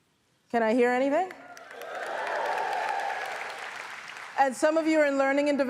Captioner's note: audience applauds